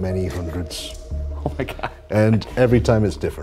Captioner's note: chuckling